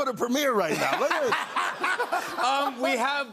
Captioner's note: laughter